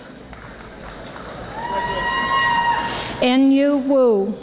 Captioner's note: audience applauding